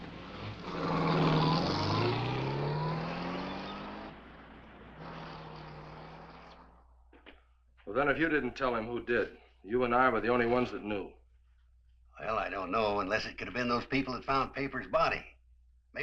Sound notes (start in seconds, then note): 0.0 car engine roaring